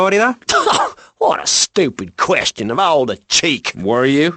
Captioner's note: scoffs